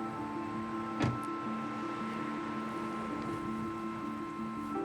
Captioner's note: car door thuds